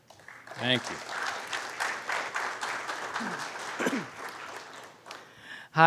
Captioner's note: applause